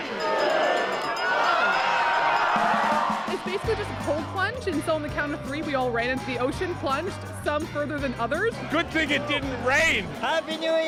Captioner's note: cheers and Applause